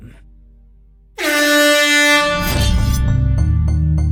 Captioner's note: air Horn